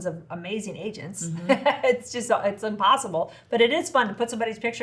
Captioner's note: laughs